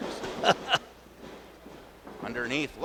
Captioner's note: laughs